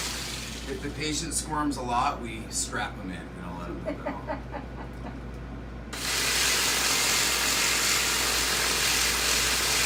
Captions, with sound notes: If the patient squirms a lot we strap them in. We don't let them move at all. (giggling) (machine whirring)